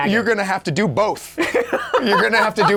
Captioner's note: laughing